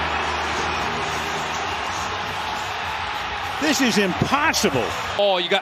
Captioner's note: applause